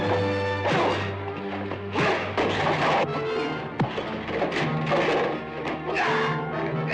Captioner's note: ax thuds; blows thudding; men groaning